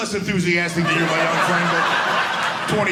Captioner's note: audience laughing